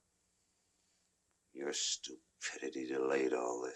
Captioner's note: none